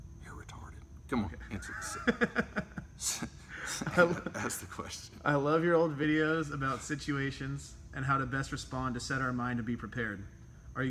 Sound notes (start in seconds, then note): 1.4 laughs